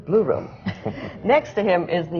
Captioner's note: laughter